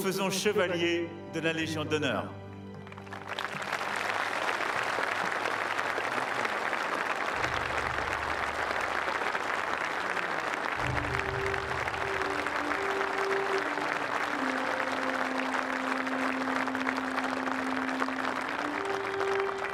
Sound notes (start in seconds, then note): 8.9 applause; 8.9 speaking french